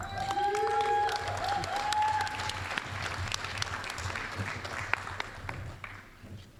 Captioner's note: applause